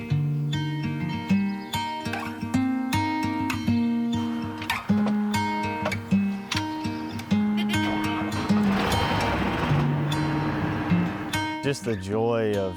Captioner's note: tractor Starting Up